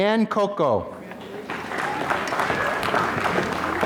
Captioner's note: applause